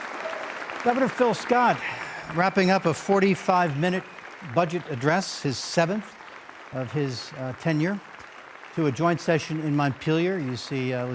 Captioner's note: applause